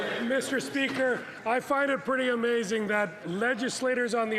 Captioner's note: some Applause